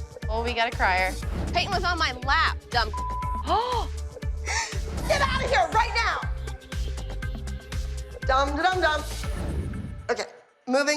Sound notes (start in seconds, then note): 3.2 sobbing; 4.4 gasps